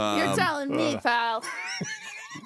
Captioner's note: laughing